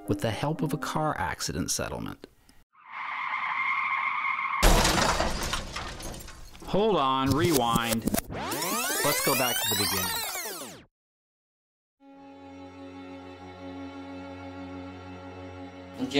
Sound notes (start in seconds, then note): 2.8 brakes squealing; 4.6 crash banging; 7.8 VHS tape whirring; 12.1 gentle brooding music